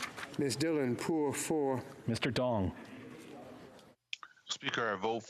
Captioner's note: speaking French